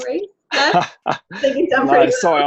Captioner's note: laughs